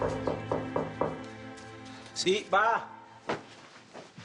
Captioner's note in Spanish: Toques en la puerta